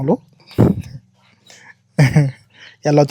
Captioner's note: launghing